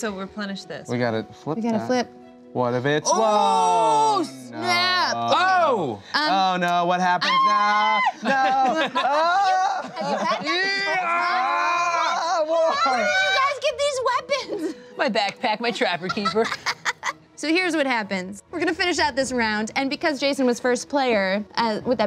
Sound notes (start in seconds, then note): 7.2 screams; 9.1 shouting